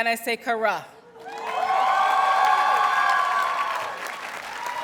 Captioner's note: audience cheers and applauds